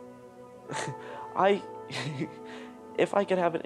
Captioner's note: chuckles; whimpers